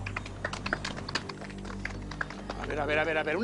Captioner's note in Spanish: Aplausos